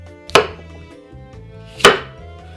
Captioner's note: knife chop